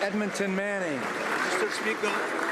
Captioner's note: some Applause